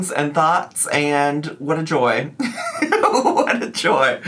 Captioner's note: laughs